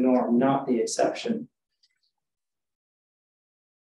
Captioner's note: pause